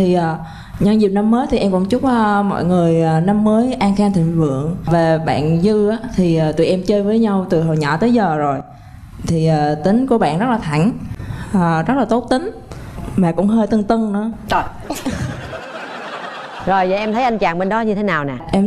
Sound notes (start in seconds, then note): 14.8 laugh